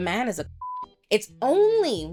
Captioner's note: beep